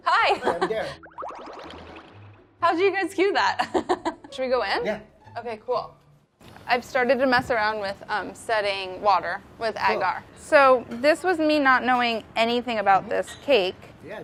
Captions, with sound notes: - Oh, hi. - Hi, I'm Darren. [futuristic beeps] - How'd you guys cue that? Should we go in? - Yeah. - Okay, cool. I've started to mess around with setting water with agar. - Cool. - So, this was me not knowing anything about this cake.